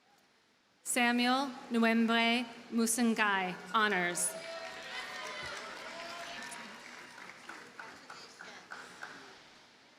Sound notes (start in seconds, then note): 3.8 audience cheers and applauds